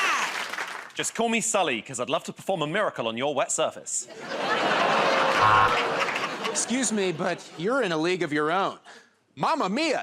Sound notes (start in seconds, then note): 4.2 laughter and applause; 4.7 buzzer